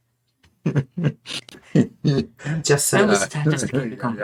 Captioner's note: laughing